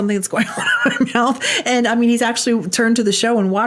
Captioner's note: laughing